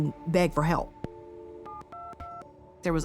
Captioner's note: phone dialing